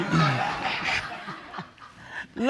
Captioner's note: audience laughs